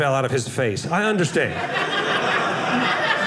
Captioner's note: audience laughing